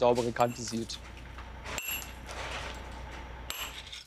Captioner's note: clinking hammering